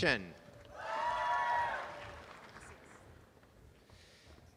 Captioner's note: applause and cheering